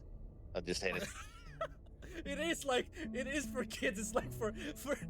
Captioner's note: laughs